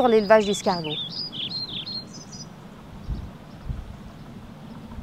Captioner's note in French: bruit d'oiseaux